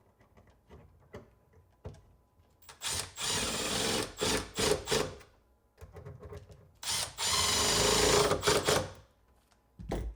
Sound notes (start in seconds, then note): 2.7 tool whirring; 6.8 tool whirring